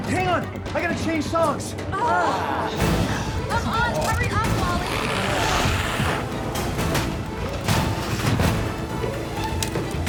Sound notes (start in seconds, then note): 2.0 group groans; 4.6 glowzies growling